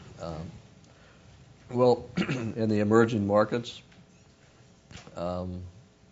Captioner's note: cough